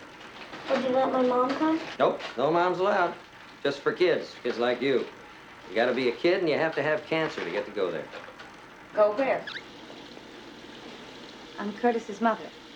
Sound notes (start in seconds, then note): 9.3 faucet running